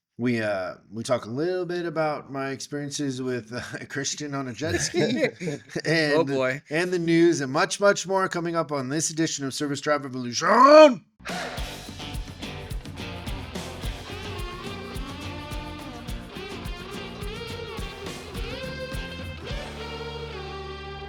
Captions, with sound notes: We talk a little bit about my experiences with a Christian on a jet ski. (laughing) Oh boy. And the news and much, much more coming up on this edition of Service Drive Evolution. (upbeat music)